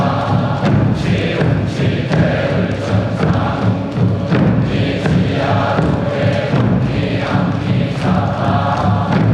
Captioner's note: applause